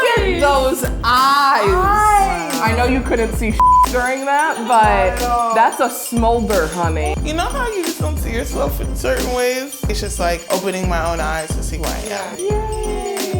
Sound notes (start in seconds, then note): 3.6 beep